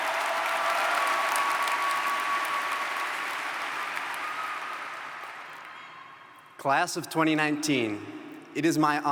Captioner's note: applause